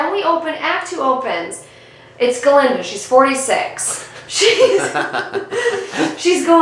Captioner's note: both laughing